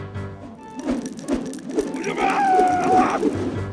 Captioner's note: screaming